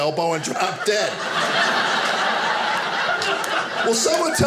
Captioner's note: audience laughing